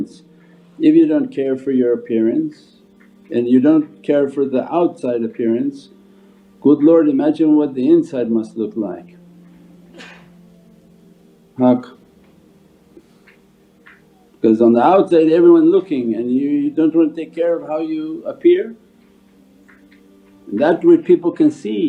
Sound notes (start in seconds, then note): 9.9 someone sneezes